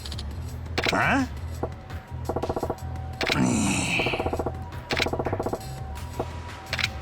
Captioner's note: groans